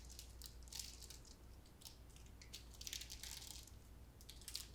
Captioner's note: wrapper rustling